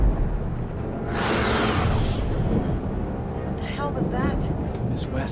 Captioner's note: thunder rumbles; creature screeches